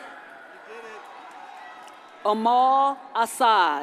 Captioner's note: audience cheers and applauds